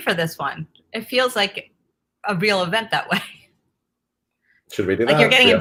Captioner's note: laughs